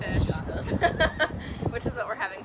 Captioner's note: laughing